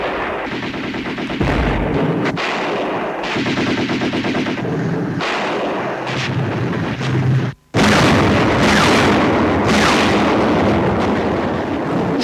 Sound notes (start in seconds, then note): 0.0 guns firing rapidly; 7.7 heavy bombing and gunfire